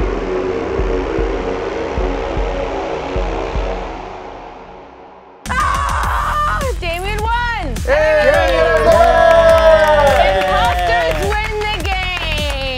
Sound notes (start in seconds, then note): 5.4 screams; 7.9 cheering